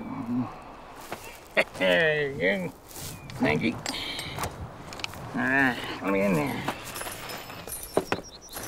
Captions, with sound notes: (laughs) Thank you. All right, let me in there.